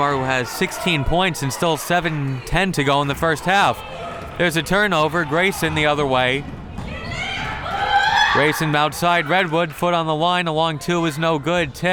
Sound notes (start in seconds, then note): 6.7 crowd members shouting